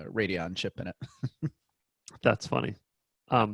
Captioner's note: laughing